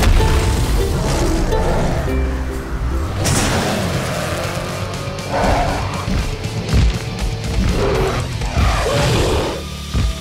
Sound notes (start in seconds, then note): 0.2 roaring; 7.6 roaring